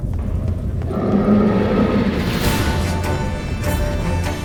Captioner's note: loud roar